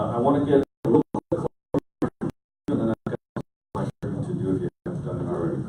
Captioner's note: audio cutting out